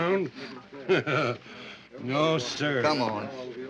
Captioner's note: chuckles